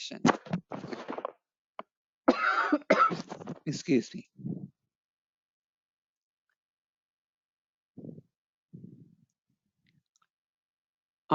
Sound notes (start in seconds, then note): 2.2 coughing